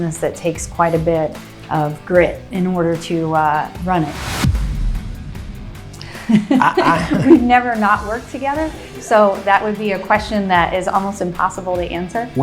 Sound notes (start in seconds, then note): 6.5 laugh